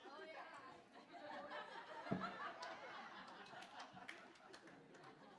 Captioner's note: laughter